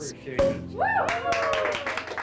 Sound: cork pops; all clap and cheer

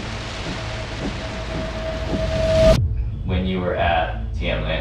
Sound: rain falling

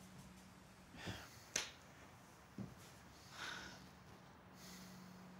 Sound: sighs; hand claps

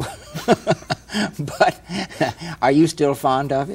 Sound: both laughing

